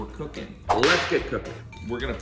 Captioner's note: whip snapping